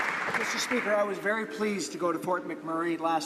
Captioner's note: some Applause